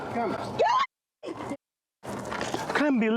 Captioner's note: screams